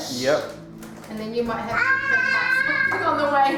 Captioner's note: boy yelling